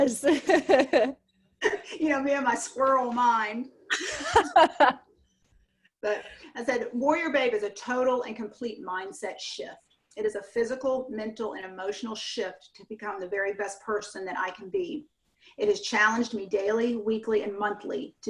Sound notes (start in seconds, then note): 0.2 laughs; 3.9 laughs